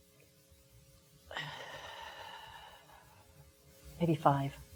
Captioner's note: exhaling